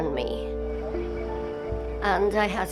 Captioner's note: pensive music; water trickles